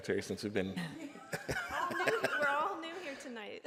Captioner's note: laughs